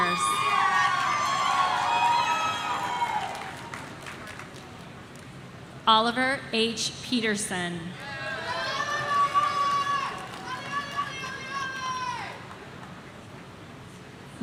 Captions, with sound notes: (audience cheering) Oliver H Peterson. (person shouting)